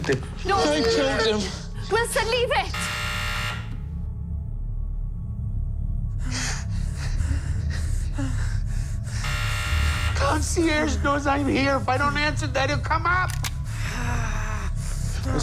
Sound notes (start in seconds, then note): 2.6 intercom buzzes; 9.2 intercom buzzes; 13.2 cocks gun